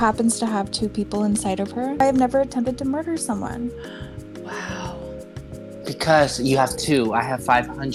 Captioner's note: gasp